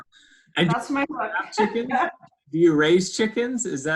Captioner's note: laughs